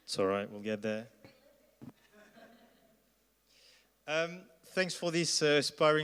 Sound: laugh

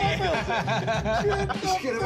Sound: cast laughs

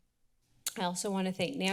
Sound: clicks tongue

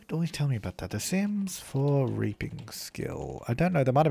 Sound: typing

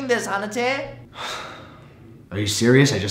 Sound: sigh

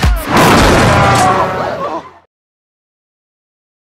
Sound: slamming

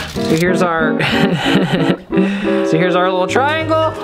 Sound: laughing

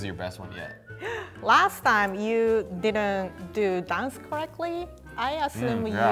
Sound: gasping

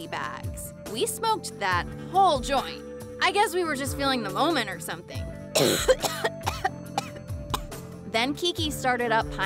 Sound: coughs

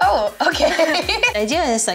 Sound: laughs

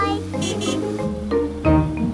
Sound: horn honking

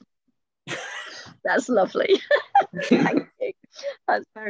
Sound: laughs

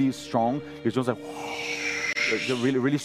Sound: wind

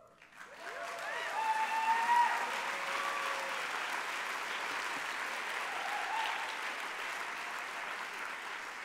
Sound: applause

